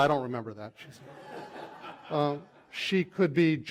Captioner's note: laughter